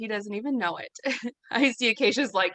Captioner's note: chuckles